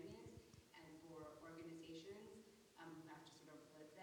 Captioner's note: speaking faintly